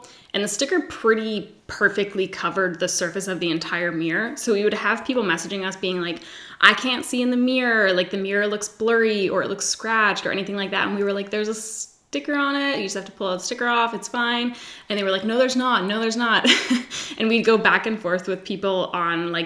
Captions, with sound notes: and the sticker pretty perfectly covered the surface of the entire mirror, so we would have people messaging us being like, I can't see in the mirror, the mirror look blurry, or it looks scratched or anything like that and we were like, there's a sticker on it, you just have the pull the sticker off, it's fine. And they were like, no there's not, no there's not, (laughs) and we'd go back and forth with people on like